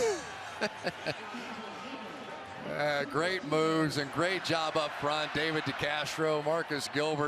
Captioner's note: laughs